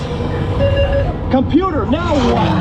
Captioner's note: beeps